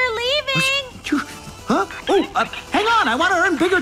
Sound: Hank exclaiming

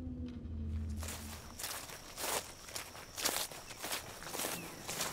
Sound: footsteps crunch; birds chirp

